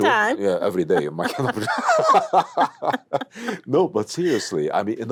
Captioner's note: laughs; burbles